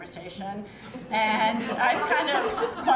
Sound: laughter

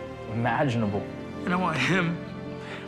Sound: voice breaking

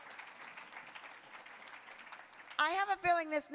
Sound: applause

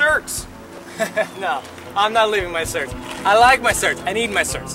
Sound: chuckles

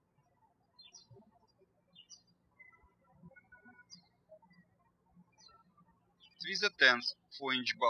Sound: birds chirping

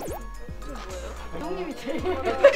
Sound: confused; laughs

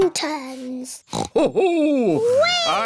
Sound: oinks

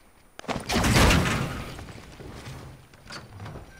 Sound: sound of port a fort being thrown down

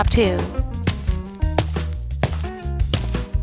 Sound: footsteps

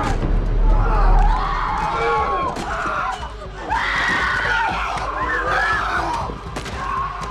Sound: screaming

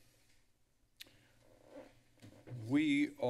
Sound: rustling sounds; click sound

